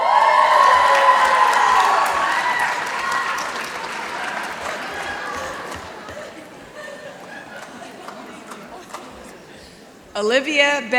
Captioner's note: applause